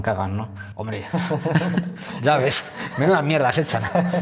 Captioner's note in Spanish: risas